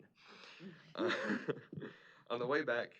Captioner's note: laughs